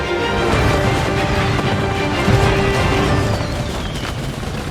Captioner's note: cannons booming